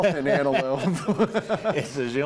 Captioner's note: laughs